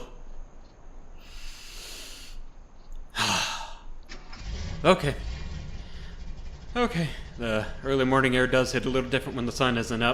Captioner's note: deep inhale